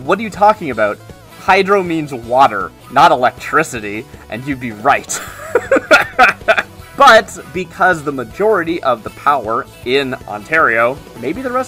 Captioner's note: laughs